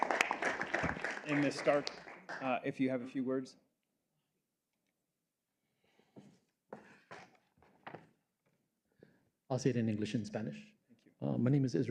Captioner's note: applause